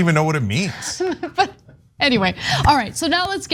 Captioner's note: laugh